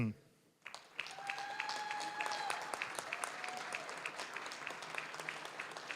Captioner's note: applause, cheering; applause